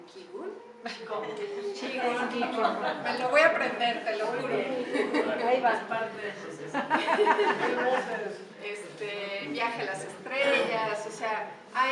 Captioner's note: laughs